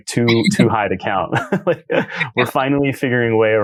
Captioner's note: laughs